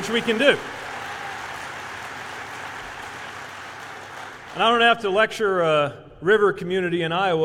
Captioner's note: applause